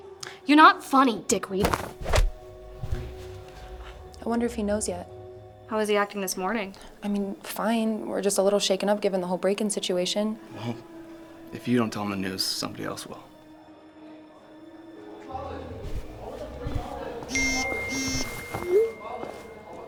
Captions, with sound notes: - You're not funny, dickweed. - I wonder if he knows yet. - How is he acting this morning? - I mean, fine, we're just a little shaken up given the whole break-in situation. - Well, if you don't tell him the news, somebody else will. [dramatic music] [phone buzzing]